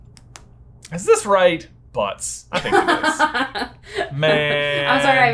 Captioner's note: laughter